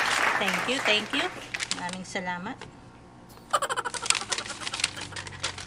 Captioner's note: laughing